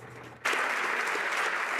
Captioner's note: some Applause